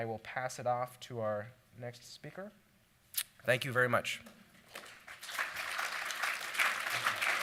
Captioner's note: applause